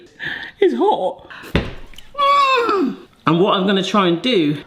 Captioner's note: yelps